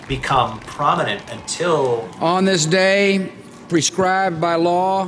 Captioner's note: soundbite of archived recording